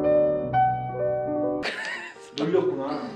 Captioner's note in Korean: 웃음